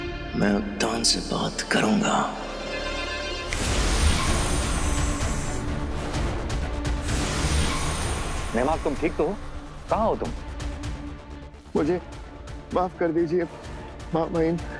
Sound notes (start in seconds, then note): 3.4 snaps finger